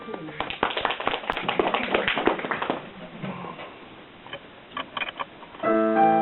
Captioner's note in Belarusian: апладысменты